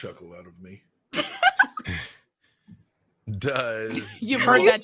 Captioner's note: laughing